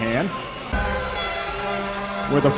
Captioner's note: arena Crowd Noise